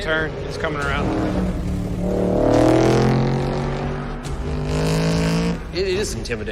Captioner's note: engine rumbling